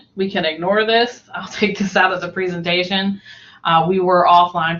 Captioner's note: laughs